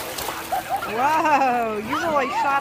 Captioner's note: water splashing